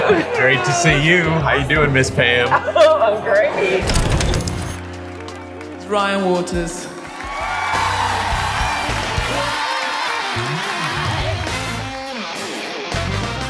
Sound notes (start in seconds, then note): 4.1 film crinkles; 7.2 applause